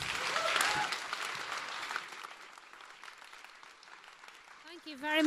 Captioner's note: applause